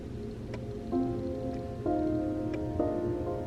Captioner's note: hat clock ticking